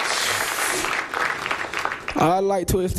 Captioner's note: applause